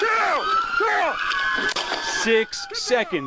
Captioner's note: sirens